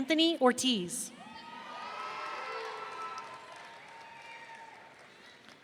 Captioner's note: audience cheering